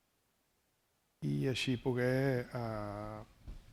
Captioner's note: speaking spanish